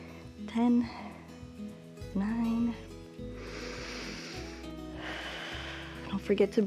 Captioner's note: inhales and exhales